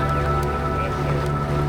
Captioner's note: wind blowing